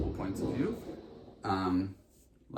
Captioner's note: loud crashes